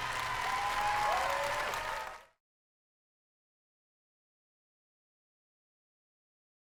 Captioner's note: cheers and applause